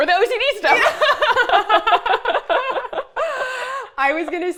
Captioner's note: laughing